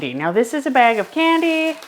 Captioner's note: bag rattling